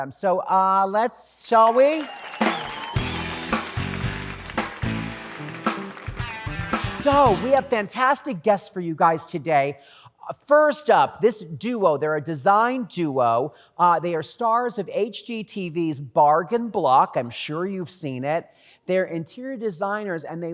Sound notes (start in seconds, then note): 1.5 audience cheering; 2.4 upbeat music